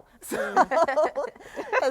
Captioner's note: all laughing